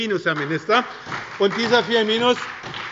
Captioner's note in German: Beifall bei der SPD